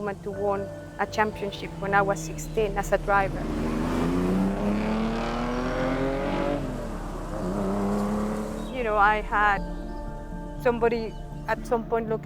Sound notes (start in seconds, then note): 4.4 car engine roaring fades away